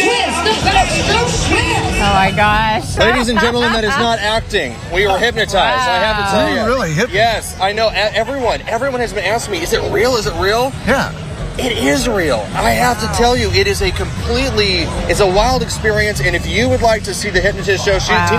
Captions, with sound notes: [ LAUGHTER ] OKAY OKAY, I GOT IT. LADIES AND GENTLEMEN, THAT IS NOT ACTING. WE WERE